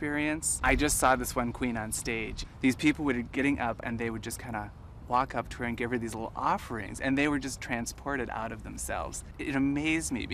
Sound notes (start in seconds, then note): none